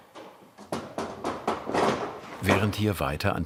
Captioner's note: clattering